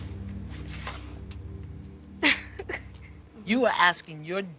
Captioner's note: laughs